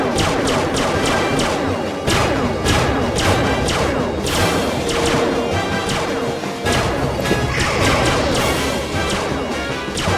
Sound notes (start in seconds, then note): 0.2 dramatic music; 1.2 weapon blasts; 4.2 dramatic music; 6.6 weapon blasting; 8.9 dramatic music